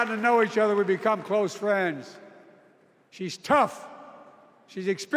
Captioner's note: cheers and applause